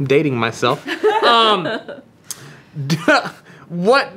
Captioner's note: laughter